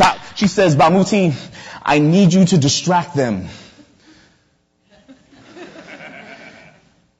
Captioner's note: audience laughter